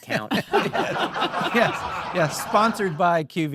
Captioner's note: audience laughing